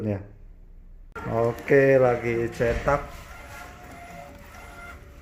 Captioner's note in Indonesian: suara mesin printer